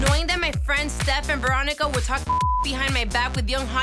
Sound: beep sound

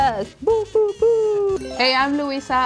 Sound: cheering

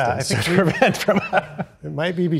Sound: laughing

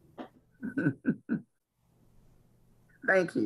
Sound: laughs

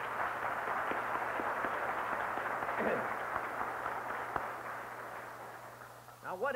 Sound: applause

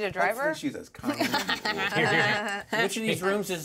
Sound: laughs

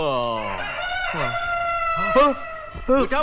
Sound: roosters Crowing

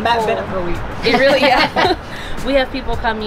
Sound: laughs

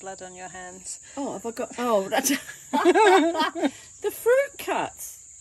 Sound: laughter

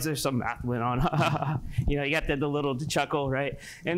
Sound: chuckles

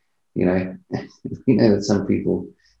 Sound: chuckles

